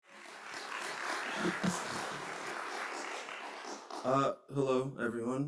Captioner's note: applause